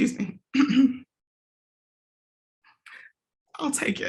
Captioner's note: clears throat